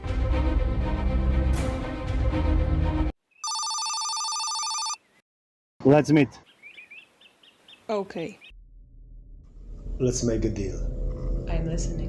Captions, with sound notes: [intense music] [phone rings] Let's meet. Ok. Let's make a deal. I'm listening.